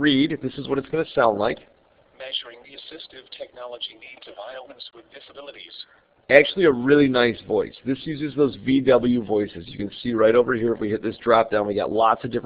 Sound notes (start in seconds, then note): 3.0 computer reading